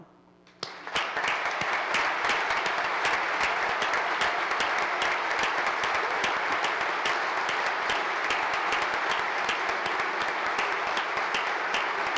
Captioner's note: applause